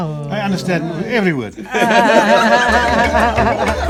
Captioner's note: laughter